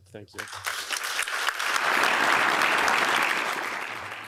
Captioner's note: applause